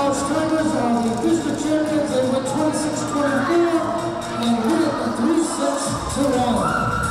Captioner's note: crowd noise